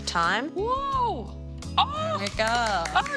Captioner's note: exclaiming in amazement